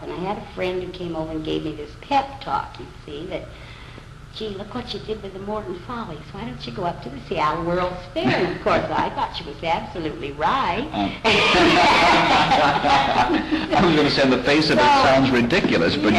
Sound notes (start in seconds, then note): 11.2 laughter